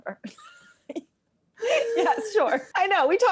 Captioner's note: both laugh